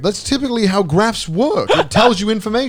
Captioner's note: Garnt laughing